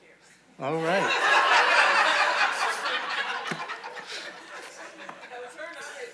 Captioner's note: audience laughing